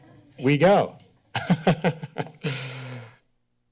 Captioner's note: laughter